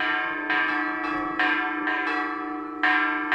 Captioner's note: church bells ringing